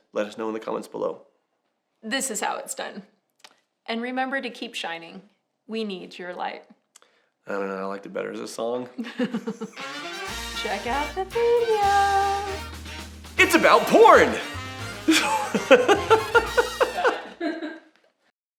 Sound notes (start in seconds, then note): 10.6 upbeat music; 15.0 laughter